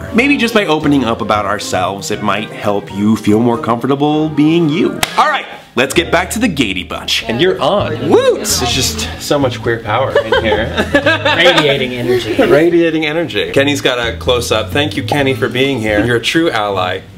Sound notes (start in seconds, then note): 5.0 claps; 7.2 indistinct chatter; 10.1 laughs